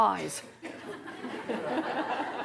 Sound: laughter

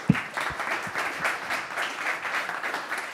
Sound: applause

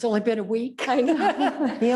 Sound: laughs

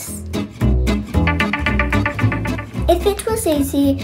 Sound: alarm chimes

